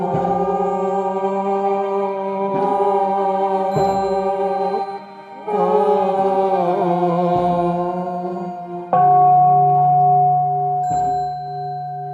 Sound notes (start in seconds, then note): 8.8 bell ringing; 10.2 singing chant